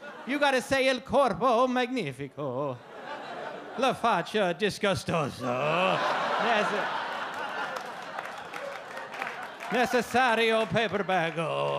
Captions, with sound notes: You gotta say el corpo magnifico, le facce disgustoso. (audience laugh) Necessario paper bag-o.